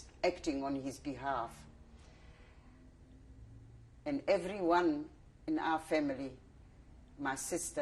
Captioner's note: pauses for 3 seconds